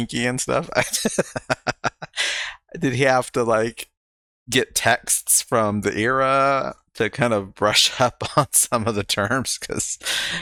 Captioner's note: laughing